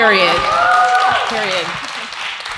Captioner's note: audience cheers